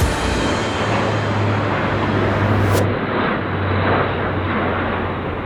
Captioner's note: plane engine roaring